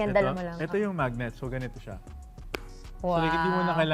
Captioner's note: wallet claps